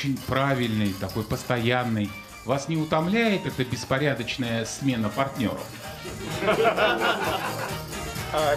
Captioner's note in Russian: смех